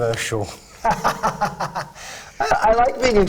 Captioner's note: laughs